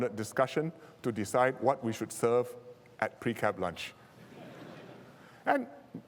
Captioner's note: laughter